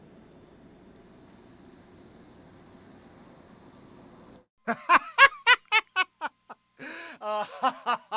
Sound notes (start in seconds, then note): 0.9 crickets chirping; 4.7 man laughs